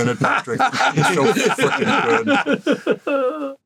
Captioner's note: all laugh